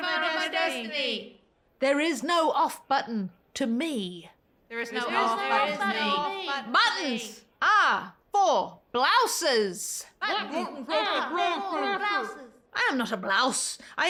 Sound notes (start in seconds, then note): 0.0 crowd repeats; 4.8 crowd repeats; 10.2 crowd repeats